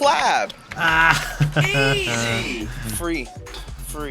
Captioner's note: laughs